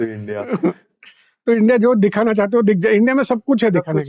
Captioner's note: speaking in Hindi